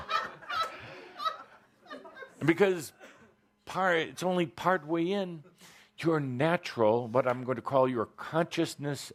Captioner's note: laughter